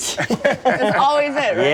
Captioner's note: laughter